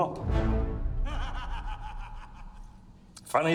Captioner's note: inmate laughing